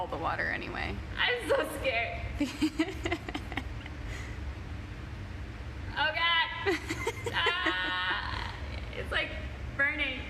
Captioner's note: laughs